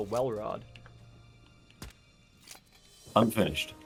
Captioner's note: suppressed pops